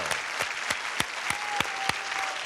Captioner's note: applause